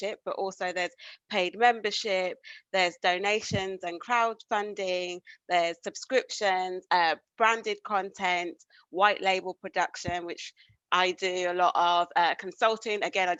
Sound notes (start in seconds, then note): none